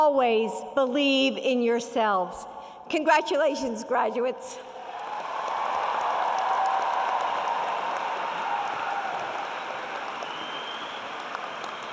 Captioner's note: applause and Cheering